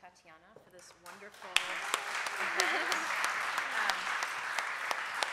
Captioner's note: applause